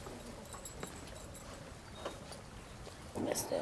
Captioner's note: light wind blowing